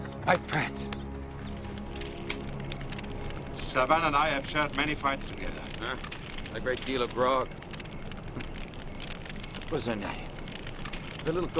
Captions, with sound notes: My friend. (fire crackling) (crickets chirping) - Savann and I have shared many fights together. - Eh, and a great deal of grog. Listen, that little gold haired woman